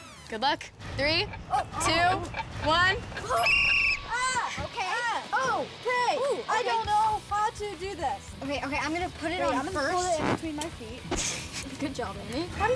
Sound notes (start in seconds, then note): 3.3 whistle blowing